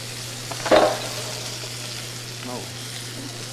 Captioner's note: item thuds